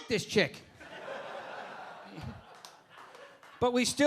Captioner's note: audience laughing